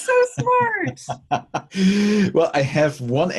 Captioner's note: laughs